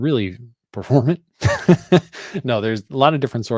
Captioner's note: laughs